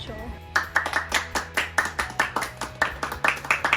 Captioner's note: clapping